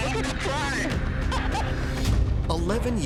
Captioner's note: laughs